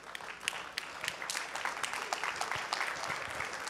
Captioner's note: clapping